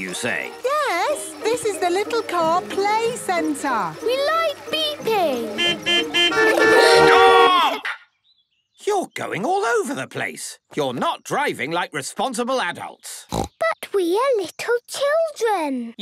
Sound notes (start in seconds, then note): 5.1 horns beeping; 13.2 snorting